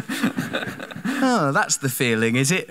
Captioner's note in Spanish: Risa de la audiencia